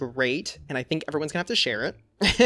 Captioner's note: laughs